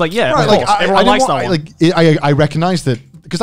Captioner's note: murmurs